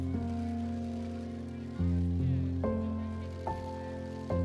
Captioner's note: crowd cheering